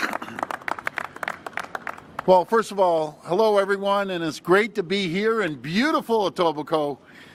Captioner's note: applause